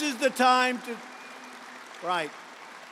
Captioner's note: applause